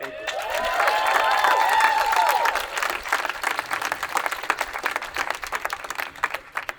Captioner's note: attendees applauding and cheering